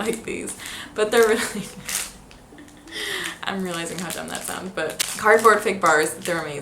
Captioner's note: laughs